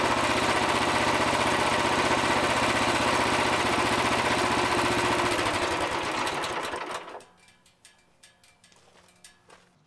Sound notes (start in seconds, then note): 5.1 engine Turned Off